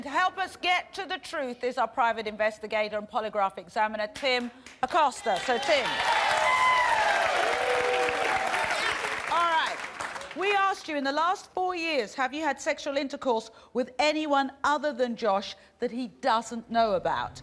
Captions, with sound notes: To help us get to the truth is our private investigator and polygraph examiner, Tim Acosta. So Tim. (applause) Alright. We asked you, "In the last four years, have you had sexual intercourse with anyone other than Josh that he doesn't know about?"